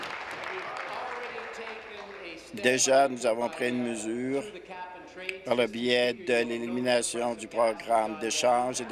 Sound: applause

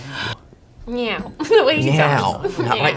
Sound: laughing

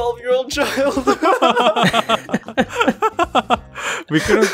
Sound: group laughter

